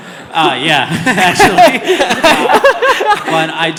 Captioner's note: audience laughter